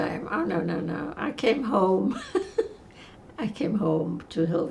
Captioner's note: laughing